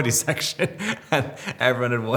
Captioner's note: Robert laughing